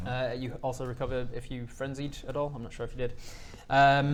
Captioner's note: none